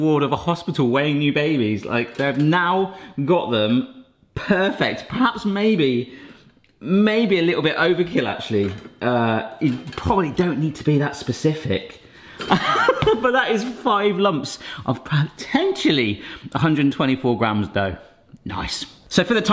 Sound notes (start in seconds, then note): 12.5 laughs